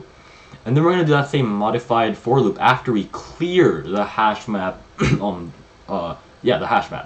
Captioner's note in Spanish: aclara la garganta